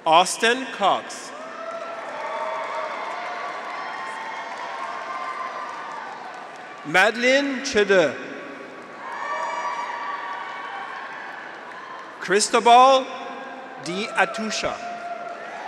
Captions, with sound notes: Austin Cox. (graduates cheer) (audience applauds) Madeline Csere. (graduates cheer) (audience applauds) Cristobal De Atucha.